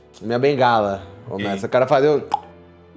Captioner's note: beating sound